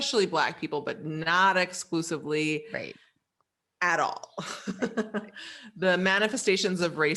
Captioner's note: laughs